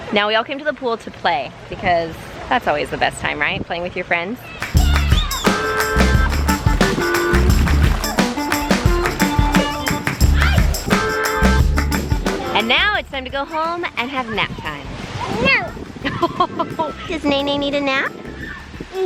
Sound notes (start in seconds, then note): 4.6 upbeat jazzy music; 16.0 laughing